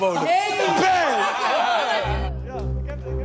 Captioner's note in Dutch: gejuich